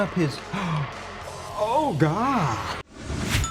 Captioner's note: gasping